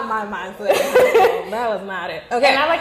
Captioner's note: laughing